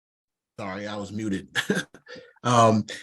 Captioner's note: chuckle